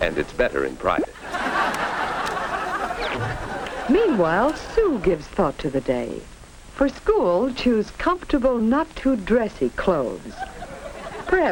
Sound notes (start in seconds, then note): 1.1 audience laughs